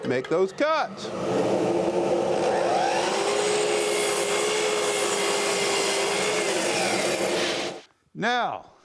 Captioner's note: saw whirs